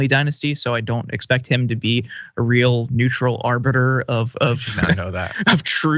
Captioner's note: laugh